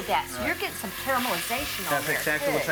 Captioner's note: tomato sizzles